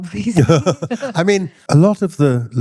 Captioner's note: laughing